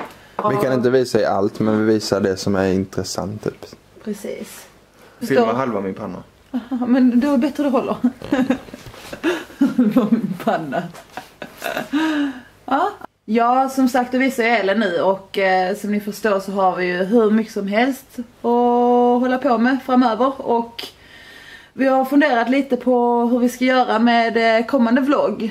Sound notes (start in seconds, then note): 7.8 laughing